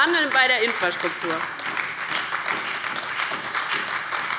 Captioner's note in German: Lebhafter Beifall bei der LINKEN, der SPD und der FDP